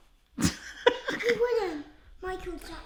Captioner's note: laughs